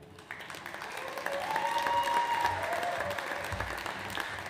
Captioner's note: audience applauds